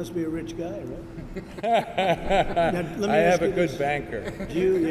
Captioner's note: laughter; laughter